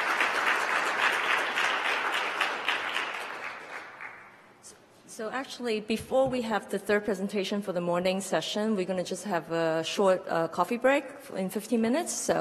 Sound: applause

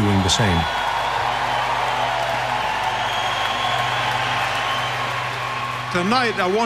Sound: applause and cheering

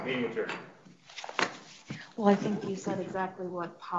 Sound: gavel pounding

